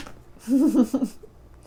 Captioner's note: laughter